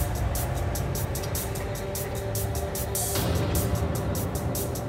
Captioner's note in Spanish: ruido del camión